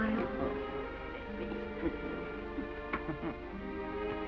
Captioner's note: chuckles